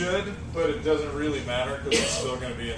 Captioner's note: cough